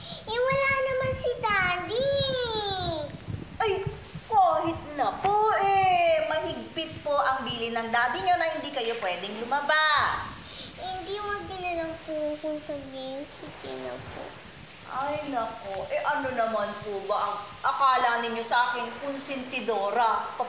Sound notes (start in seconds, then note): none